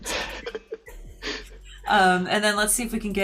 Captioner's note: chuckling